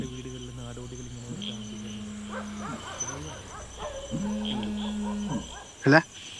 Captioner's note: indistinct chatter